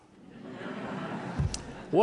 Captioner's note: laughter